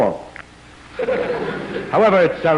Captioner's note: laughter